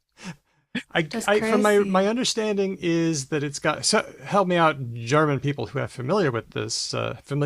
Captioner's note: laughs